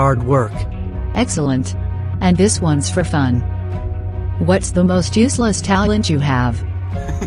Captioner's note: giggles